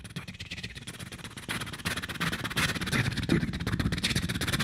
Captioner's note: beatboxing